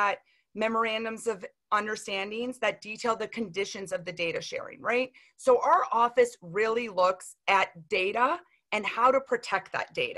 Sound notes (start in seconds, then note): none